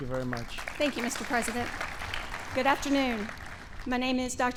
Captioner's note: applause